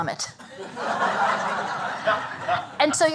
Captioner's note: laughter